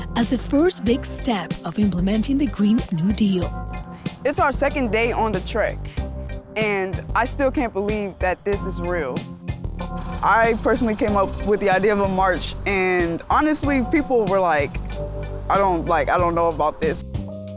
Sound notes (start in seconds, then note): none